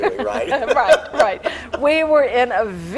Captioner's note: laughing